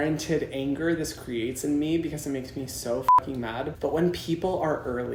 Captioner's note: beep